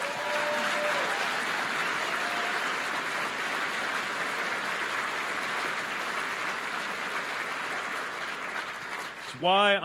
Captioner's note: applause